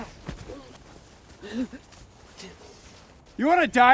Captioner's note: grunts